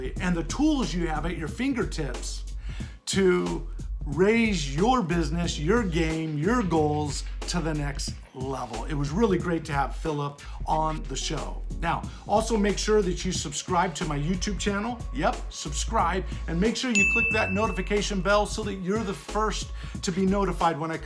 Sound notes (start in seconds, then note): 16.9 bell dings